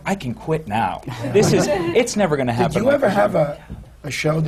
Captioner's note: laughter